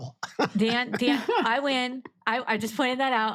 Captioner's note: laugh